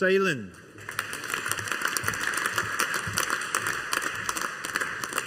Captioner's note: audience applauding